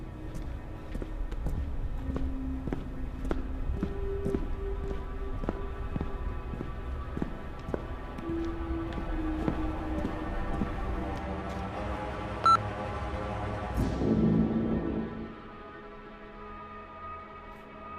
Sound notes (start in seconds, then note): 12.4 terminal beeping